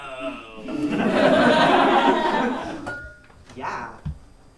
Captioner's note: audience laughs